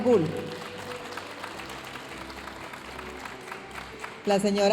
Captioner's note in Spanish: aplausos de la audiencia